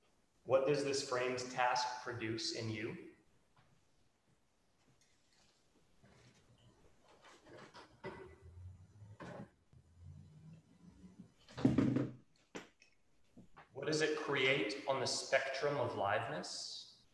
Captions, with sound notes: What does this framed task produce in you? [clatters] What does it create on the spectrum of "liveness?"